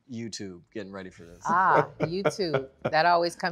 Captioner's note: laughs